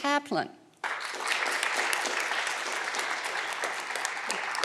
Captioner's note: audience clapping